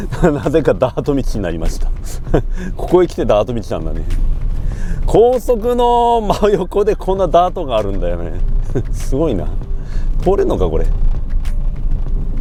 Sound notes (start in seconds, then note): 0.0 laughs; 6.2 laughs